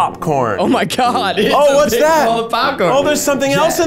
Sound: laughs

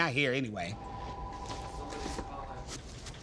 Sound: phone ringing

